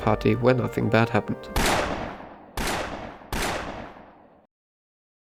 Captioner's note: three gunshots